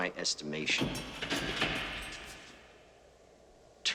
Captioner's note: door opening